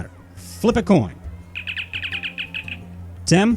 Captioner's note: Communicator chirps